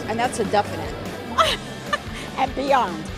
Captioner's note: laughs